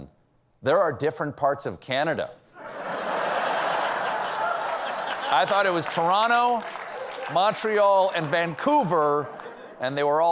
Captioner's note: laughter